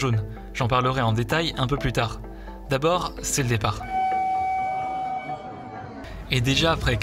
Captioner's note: train whistle